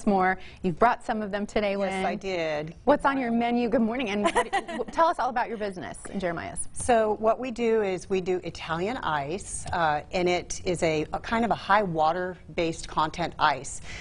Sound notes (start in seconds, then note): 4.2 chuckles